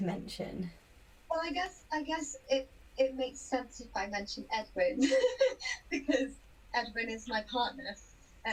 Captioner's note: laughs